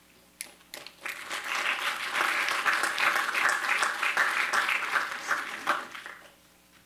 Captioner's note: applause